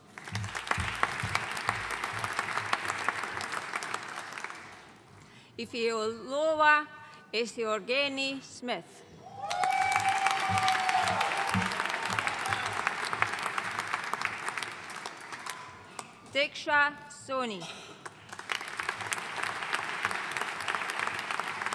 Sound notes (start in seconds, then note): 0.0 audience applauding; 9.3 audience cheering and applauding; 18.1 audience applauding